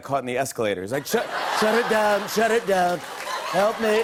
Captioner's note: laughter; laughter and applause